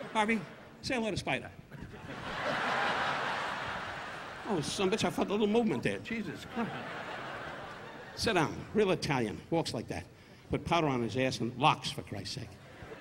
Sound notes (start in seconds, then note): 1.8 audience laughing